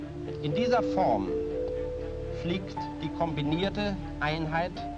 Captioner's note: speaking German